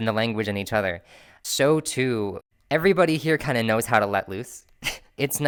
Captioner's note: laughter